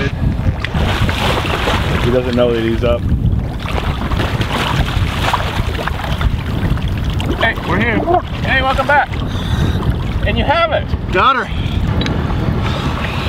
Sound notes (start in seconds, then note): 1.3 water splashing